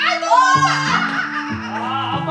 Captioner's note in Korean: 비명